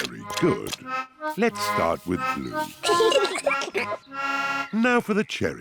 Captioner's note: both giggle